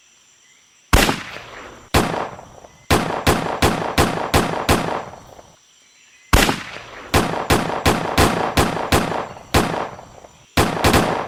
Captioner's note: shots